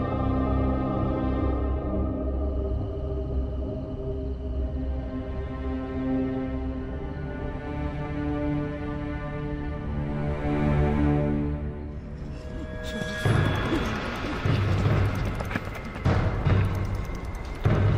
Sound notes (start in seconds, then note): 7.8 suspenseful music; 13.9 men panting